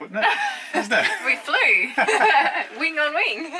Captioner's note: laughs